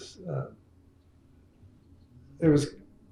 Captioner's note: laughs